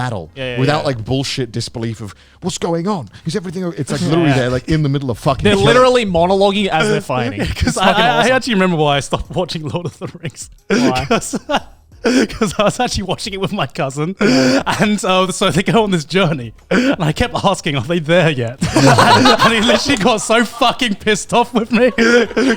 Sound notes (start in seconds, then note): 11.2 laughs; 18.6 everyone laughs